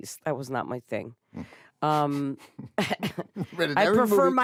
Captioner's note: both chuckle